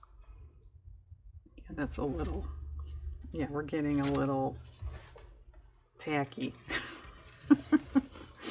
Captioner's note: laughs